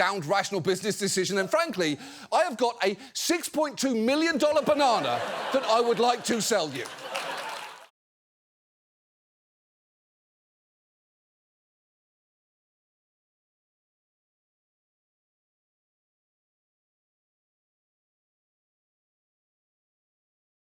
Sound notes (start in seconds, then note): 4.4 audience laughs, applauds